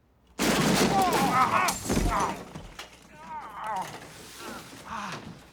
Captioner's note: glass breaks, men groan